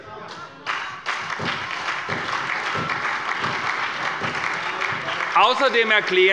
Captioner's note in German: Beifall bei der SPD, der LINKEN und der FDP